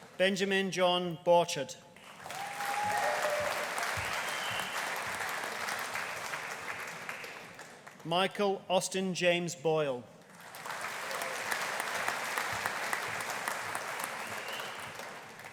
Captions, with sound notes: Benjamin John Borchard. (AUDIENCE CHEERING) (AUDIENCE APPLAUDING) Michael Austin James Boyle. (AUDIENCE APPLAUDING)